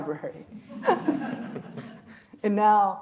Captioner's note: audience laughing; chuckling